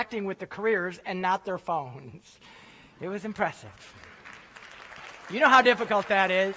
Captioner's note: applause